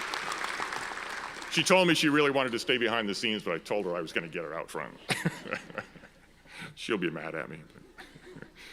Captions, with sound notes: She told me she really wanted to stay behind the scenes, but I told her I was gonna get her out front (laughs). She'll be mad at me.